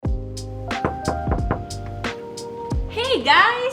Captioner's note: upbeat music; knocking